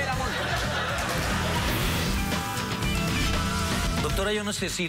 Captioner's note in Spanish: Carcajadas del público